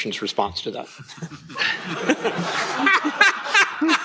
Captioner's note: laughter